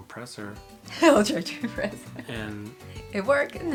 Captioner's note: laughing